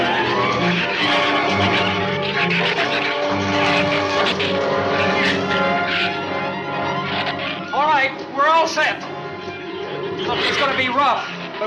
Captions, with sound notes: (dramatic music continues) (shrews snarl and chatter) - All right. We're all set! Look, it's gonna be rough,